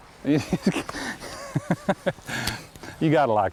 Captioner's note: laughter